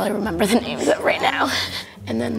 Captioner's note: chuckles